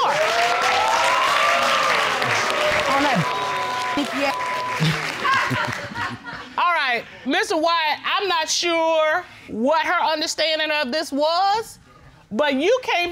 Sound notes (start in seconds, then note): 0.0 audience cheering, applauding; 4.8 woman laughing